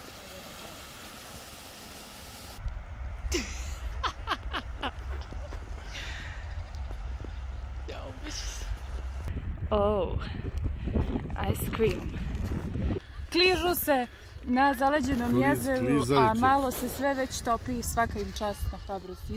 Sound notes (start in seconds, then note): 3.3 laughter